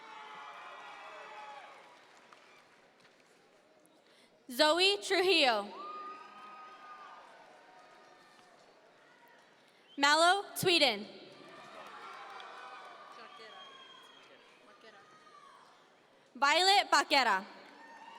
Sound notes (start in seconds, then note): 0.0 audience members cheer; 5.7 audience members cheer; 11.4 audience members cheer